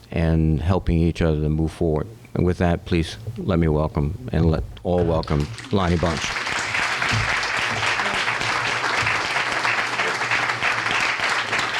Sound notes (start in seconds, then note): 5.3 applause